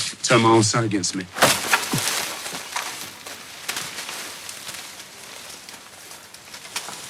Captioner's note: whacks plants